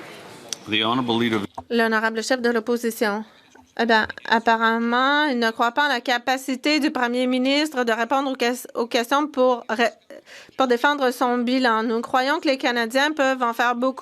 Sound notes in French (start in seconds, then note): 8.3 voix de l'interprète